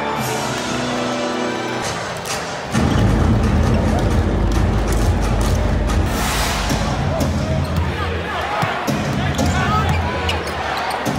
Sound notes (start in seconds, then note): 2.1 drums beating; 2.4 crowd cheering